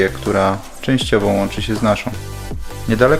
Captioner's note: Polish